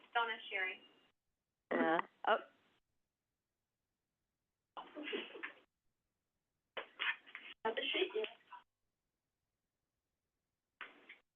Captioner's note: silence